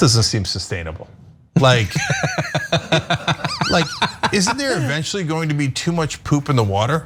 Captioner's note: laugh